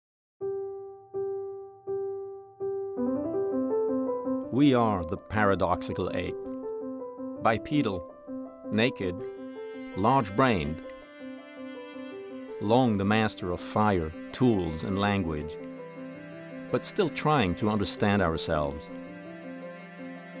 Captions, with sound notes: (light instrumental music) - [Voiceover] We are the paradoxical ape. Bipedal, naked, large-brained. Long the master of fire, tools, and language, but still trying to understand ourselves.